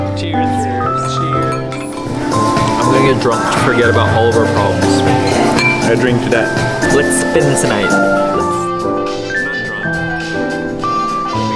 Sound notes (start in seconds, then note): 5.3 glasses clinking